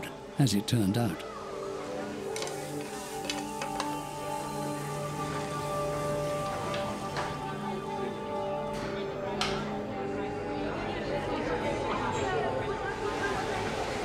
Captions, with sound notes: as it turned out. -[clacking] -[dish sizzling] [indistinct chatter]